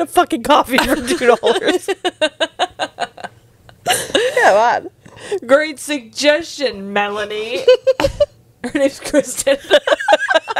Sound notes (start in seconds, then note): 1.5 laughing; 7.7 panel laughing